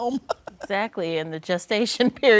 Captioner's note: chuckles